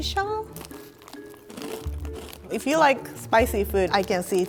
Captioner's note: crunching